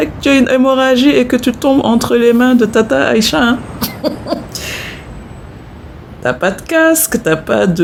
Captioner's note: laughs